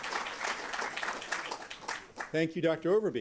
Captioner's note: applause